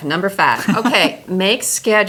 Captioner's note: laughs